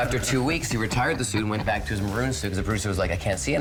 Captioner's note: both laughing